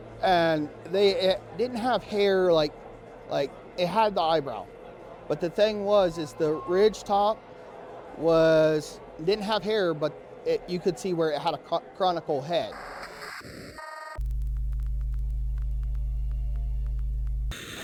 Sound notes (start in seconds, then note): 12.7 computer static beeping; 15.0 soft music